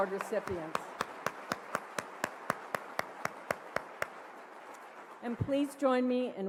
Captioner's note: applause